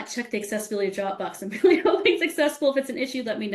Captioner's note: laughing